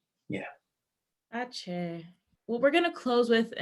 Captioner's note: non-english speech